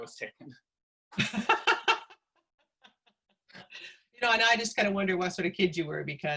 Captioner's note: laughter